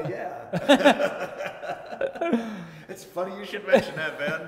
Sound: laughing

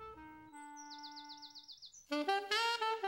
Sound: bird tweeting

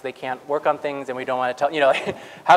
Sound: laugh

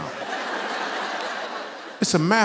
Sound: laughter

